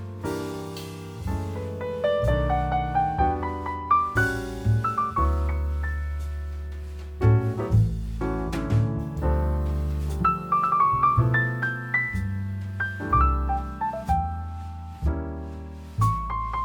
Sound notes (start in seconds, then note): 8.1 slip